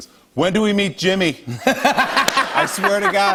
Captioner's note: laughter